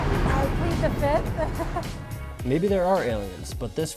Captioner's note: laughs